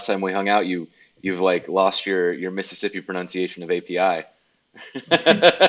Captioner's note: laughs